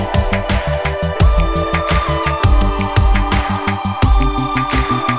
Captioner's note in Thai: ปรบมือ